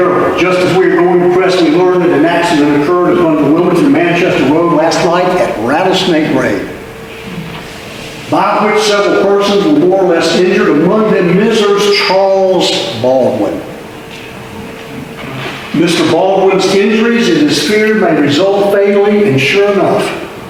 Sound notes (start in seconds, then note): none